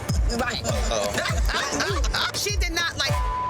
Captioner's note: woman laughing; beep